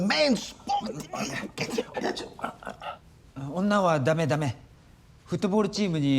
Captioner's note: speaking in foreign language